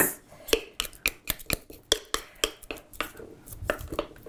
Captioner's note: scraping